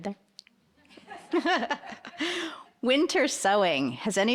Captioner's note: laughing; aduience laughing